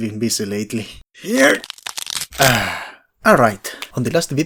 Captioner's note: grunt, bad bone noises, relieved sigh